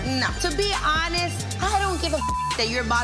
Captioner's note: beep